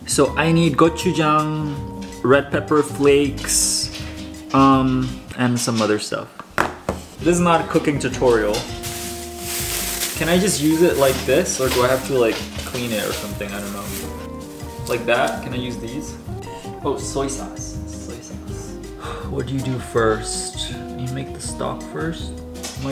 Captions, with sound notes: So I need Gochujang, red pepper flakes and some other stuff. (phone popping) This is not a cooking tutorial. (paper rustling) Can I just use it like this or do I have to like clean it or something, I don't know. Like that, can I use these? Oh, soy sauce, soy sauce. (exhales sharply) What'd you do first, you make the stock first.